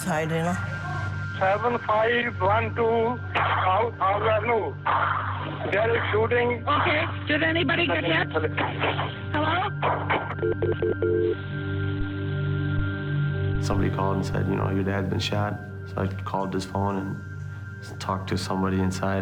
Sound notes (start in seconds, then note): 10.4 dial tone beeping